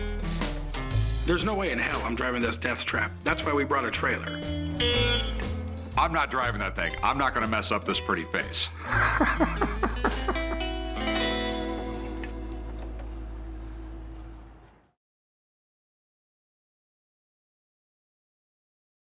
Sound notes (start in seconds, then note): 4.7 horn honking; 8.8 chuckling